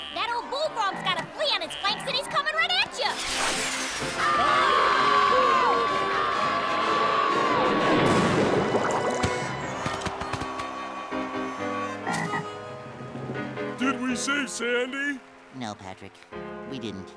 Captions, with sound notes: That o'l bullfrog's gotta flea on it's planks and it's comin' right at ya! [screaming] Did we save Sandy? No, Patrick. We didn't.